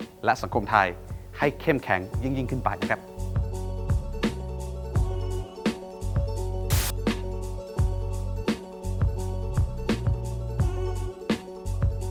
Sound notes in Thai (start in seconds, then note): 6.7 เสียงโทรทัศน์